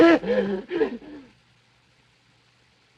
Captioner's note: screams